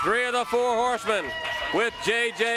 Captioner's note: crowd cheering